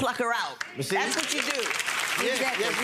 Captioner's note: audience clapping